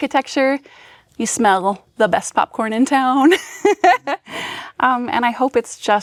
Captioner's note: chuckles